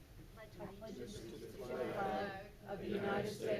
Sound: crowd

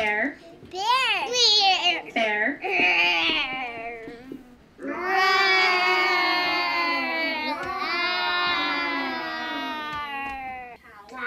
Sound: children growl like bear

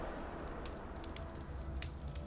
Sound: fire crackling

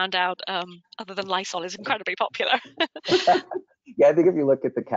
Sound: chuckles

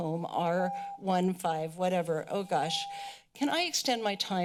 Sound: beeping

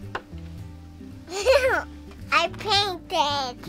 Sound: laughs

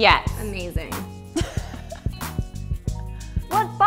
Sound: laughter

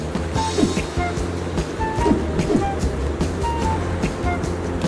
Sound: funny throwing sound

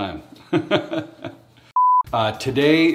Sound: laughs

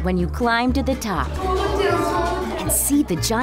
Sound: child voice

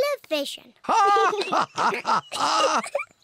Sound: both laugh; laughs

